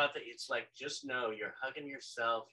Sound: none

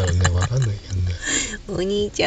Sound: laughs

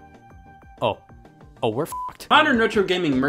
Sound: beep

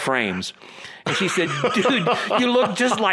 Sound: laughs

